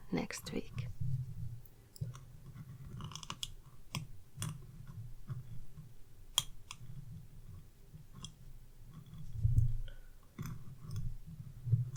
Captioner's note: inking sounds